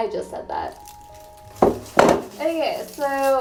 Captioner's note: klunk